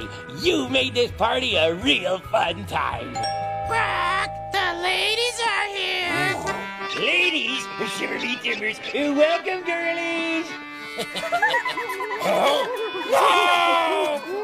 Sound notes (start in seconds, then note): 3.1 doorbell ringing; 6.0 squawking; 10.8 chuckling; 10.8 giggling